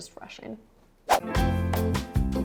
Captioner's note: whoosh; upbeat music